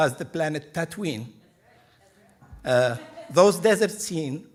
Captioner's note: laughing